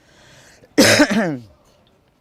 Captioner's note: coughing